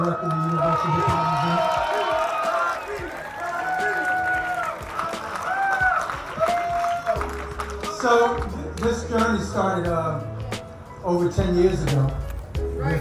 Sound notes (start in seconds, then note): 2.9 crowd cheering